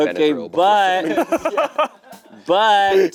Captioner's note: laughing